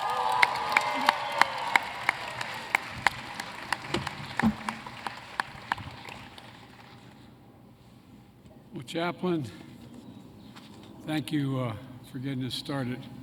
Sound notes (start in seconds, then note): 0.0 applause